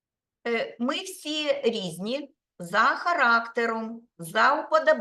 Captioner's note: speaking Ukrainian